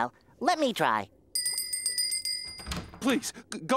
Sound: ringing

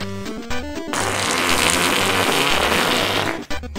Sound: LOUDER fart noise

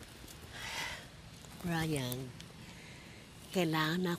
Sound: sighs

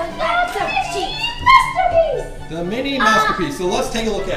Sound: voiceover

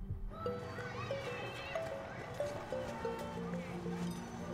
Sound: background chatter

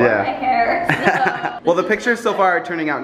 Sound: laughs

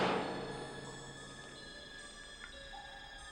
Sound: door shuts

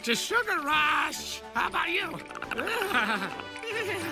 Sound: Perry chatters in agreement

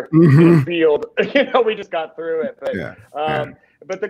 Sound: laughs

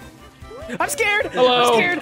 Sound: screaming

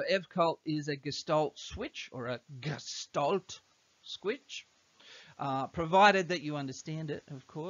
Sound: a lousy German accent

